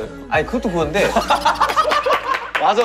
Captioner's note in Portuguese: Hahaha